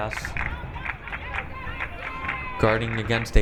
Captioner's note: crowd clapping